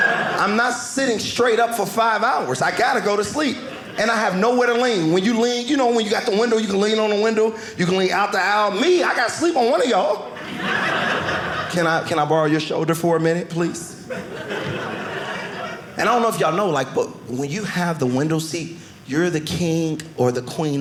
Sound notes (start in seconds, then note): 9.8 audience laughing